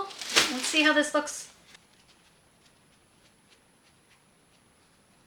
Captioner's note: scratching